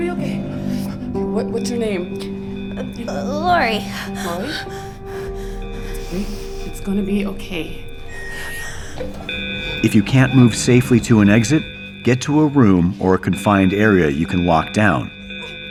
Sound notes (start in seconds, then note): none